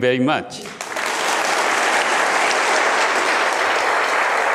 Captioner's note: audience applauding